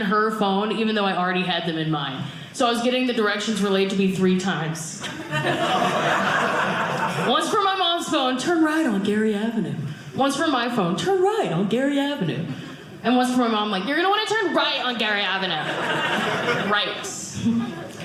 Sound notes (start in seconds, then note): 5.0 audience laughing